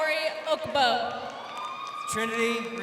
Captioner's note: crowd cheering